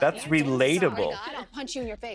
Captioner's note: soundbite of tv show, "keeping up with the kardashians"